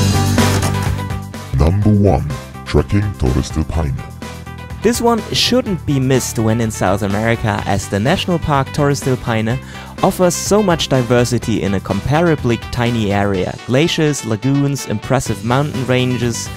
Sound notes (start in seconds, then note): 1.4 male Voice